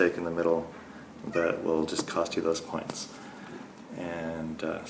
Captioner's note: meow